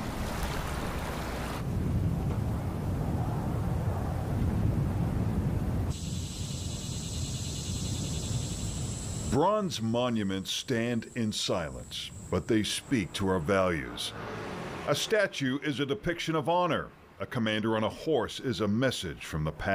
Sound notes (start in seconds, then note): 0.0 water trickling; 4.8 wind blowing